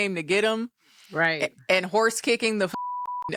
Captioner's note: beep